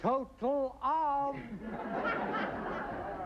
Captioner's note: laughter